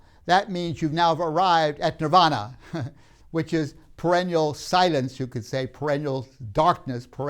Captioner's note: laughs